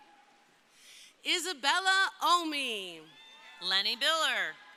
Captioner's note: crowd cheering; crowd cheering